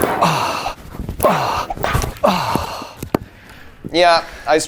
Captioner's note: person exhaling